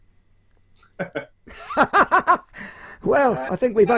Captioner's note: laughs loudly